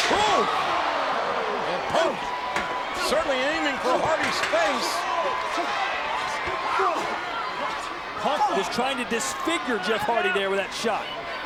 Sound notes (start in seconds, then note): 0.1 chair thuds; 6.9 both grunting